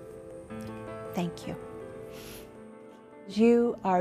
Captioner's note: sniffs